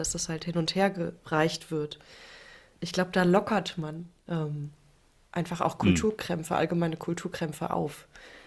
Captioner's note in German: räuspern